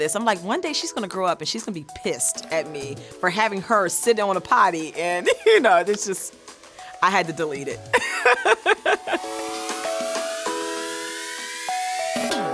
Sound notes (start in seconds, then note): 7.9 laughs; 9.7 bright music